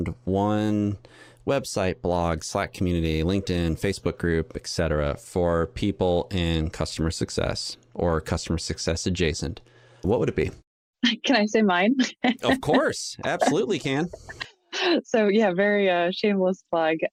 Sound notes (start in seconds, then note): 12.0 chuckles